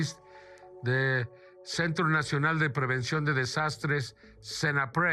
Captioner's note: foreign language